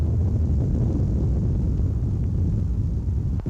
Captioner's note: none